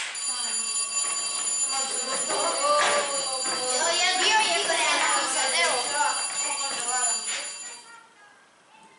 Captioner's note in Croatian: zvuk školskog zvona